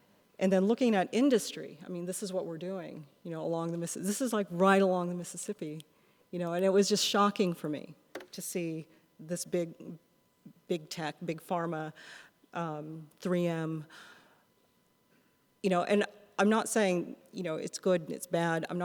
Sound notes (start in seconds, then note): none